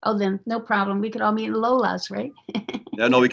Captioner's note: chuckles